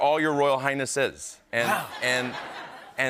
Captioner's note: laughter